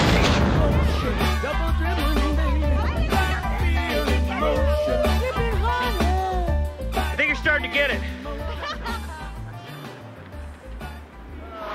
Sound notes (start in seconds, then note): 5.7 woman laughs